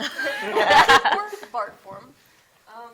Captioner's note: students laughing